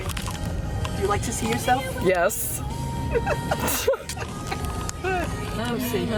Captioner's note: laughing